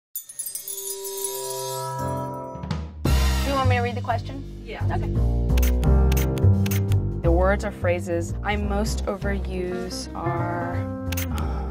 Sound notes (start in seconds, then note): 0.1 gently chiming bells; 6.1 camera clicks